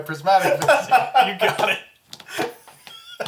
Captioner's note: all laugh